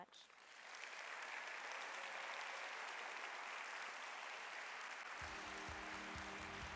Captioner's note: applause